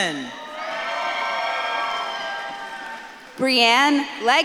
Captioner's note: audience claps and cheers